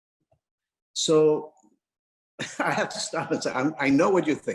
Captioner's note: laughs